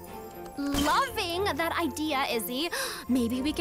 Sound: gasps

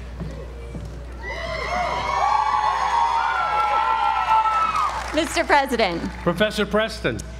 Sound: applause

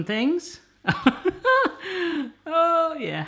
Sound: laugh

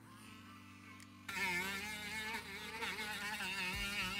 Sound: sander whirs

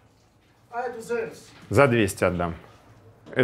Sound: speaks Portuguese

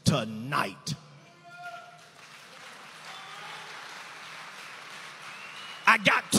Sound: audience applauding

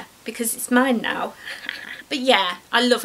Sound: evil laugh

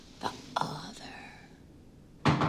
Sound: whispers; door knocking

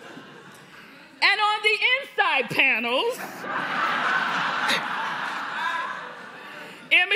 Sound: laughter

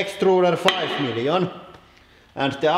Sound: clank

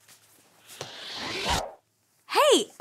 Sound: picture passes swooshes

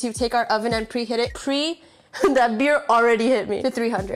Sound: laughs

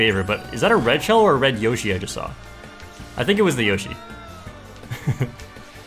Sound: laughs

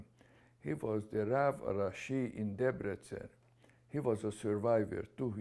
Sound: hebrew

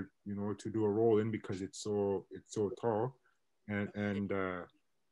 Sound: internet distortion

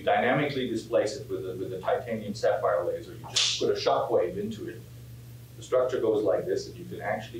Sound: pow

